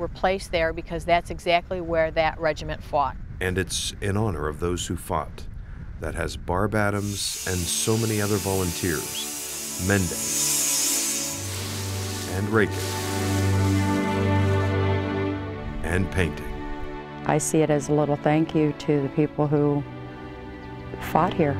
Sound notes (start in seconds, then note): 6.4 tool grinding; 7.6 gentle music; 10.1 rake rustling